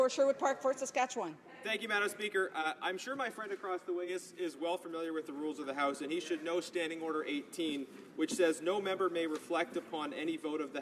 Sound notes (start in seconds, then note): none